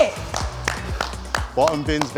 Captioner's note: clapping